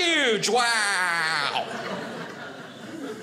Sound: audience laughing

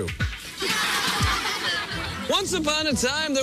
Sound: laughter

